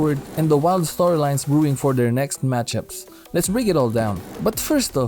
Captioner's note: disk scratch